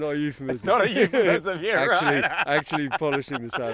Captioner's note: laughing